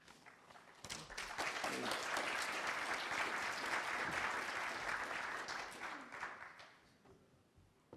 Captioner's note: applause